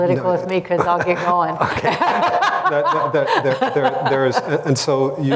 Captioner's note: laughter